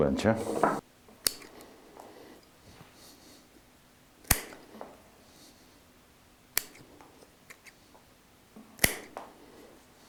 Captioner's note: sound of scissors